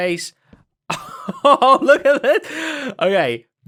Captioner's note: laughs